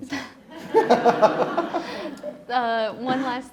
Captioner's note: all laughing